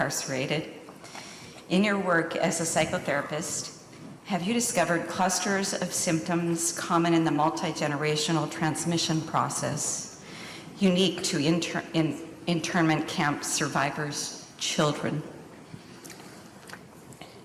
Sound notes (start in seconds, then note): none